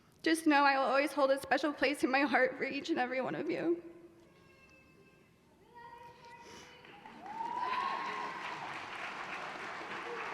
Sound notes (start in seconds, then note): 5.9 voiceover; 6.7 applause